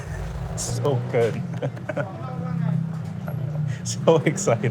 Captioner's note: laughing